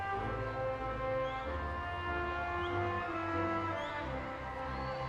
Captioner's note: audience whistling